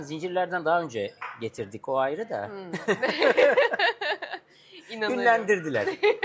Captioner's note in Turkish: kahkaha